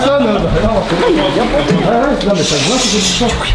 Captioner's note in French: brouhaha